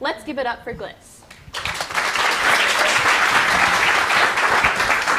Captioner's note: applause